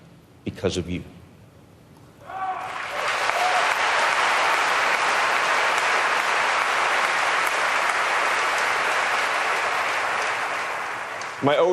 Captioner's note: applause